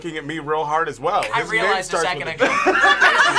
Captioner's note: group laughs